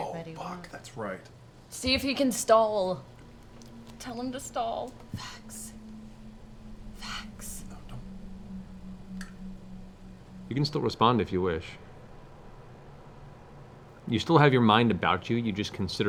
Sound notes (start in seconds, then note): 5.3 whispering